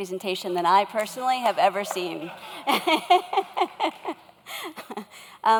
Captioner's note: laughs